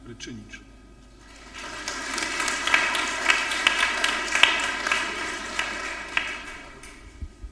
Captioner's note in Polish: oklaski